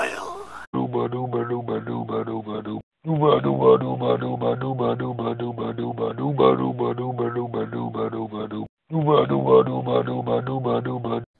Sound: alien chanting

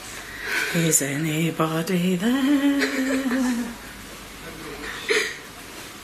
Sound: giggles

